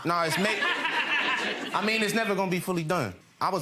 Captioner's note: audience laughs